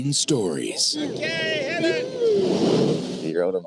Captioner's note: boat engine revs up